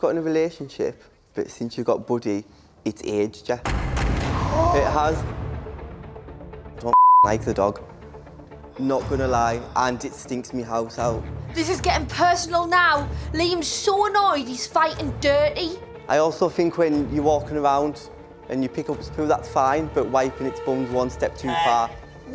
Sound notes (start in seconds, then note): 3.6 dramatic music; 6.9 beep